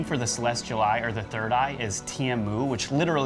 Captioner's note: speaks foreign language